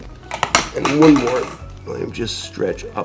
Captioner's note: lever tapping